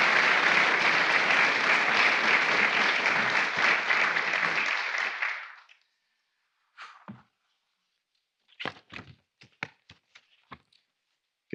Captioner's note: applause